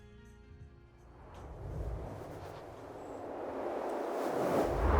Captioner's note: air whooshing